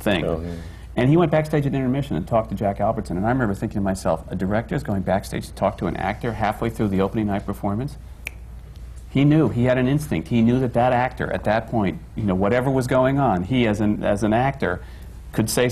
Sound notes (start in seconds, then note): 8.2 snaps fingers